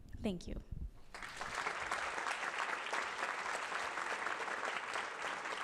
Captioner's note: applause